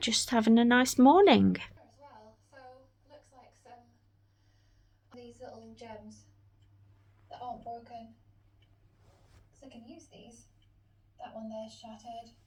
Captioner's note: sound of Northern Mudlarks in background on TV